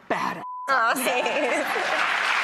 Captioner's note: laughs; audience applauds